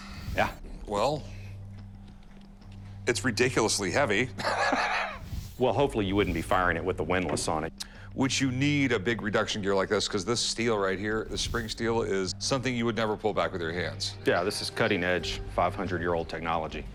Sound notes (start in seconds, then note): 4.4 laughs